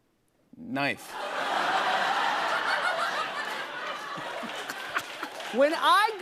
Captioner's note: laughter